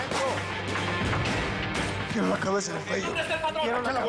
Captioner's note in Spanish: Disparos